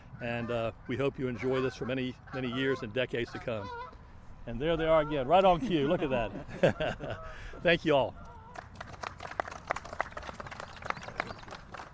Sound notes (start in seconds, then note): 8.5 applause